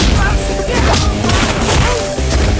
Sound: gunshot

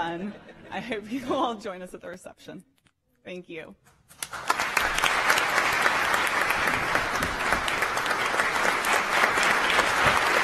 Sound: applause

